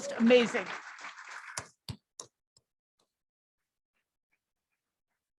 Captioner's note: applause